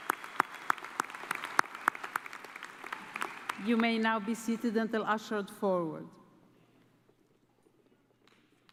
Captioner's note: applause